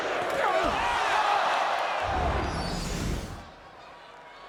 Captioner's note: crowd clamoring